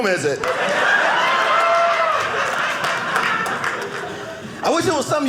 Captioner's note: audience cheering